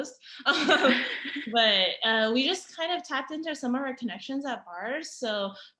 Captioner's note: laughter